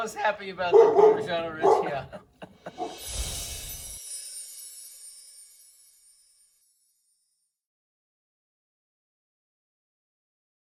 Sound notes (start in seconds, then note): 2.9 gentle chime